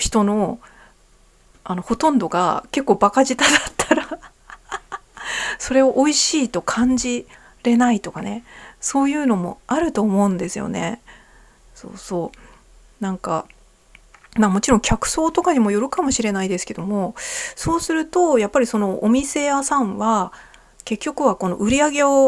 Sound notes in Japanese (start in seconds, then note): 3.4 笑い